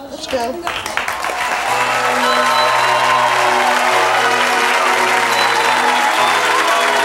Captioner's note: audience cheering; holiday music